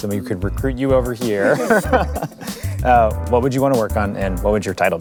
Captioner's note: laugh